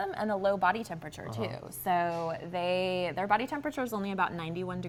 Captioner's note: none